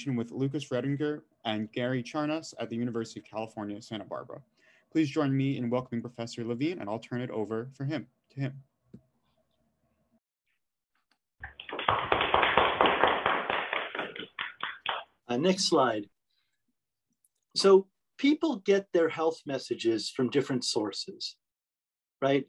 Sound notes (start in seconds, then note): 11.4 applause